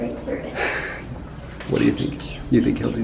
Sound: stifles laughter

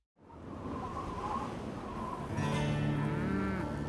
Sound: wind blowing; cows moo

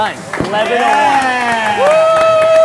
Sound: applauding and cheering

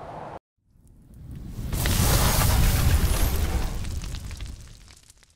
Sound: sound effect of explosion

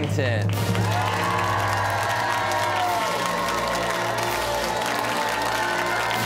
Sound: cheers and applause

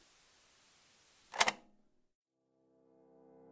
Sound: click

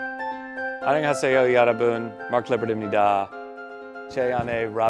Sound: in Korean

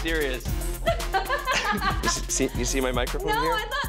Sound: laughs

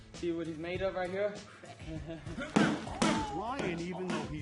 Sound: chuckling, grunting

